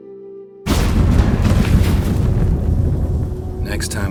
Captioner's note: portal rumbles